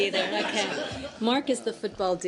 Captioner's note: laughter